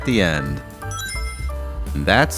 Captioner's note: Sonic Ring Chime